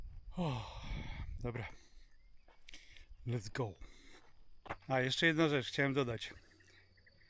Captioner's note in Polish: westchnienie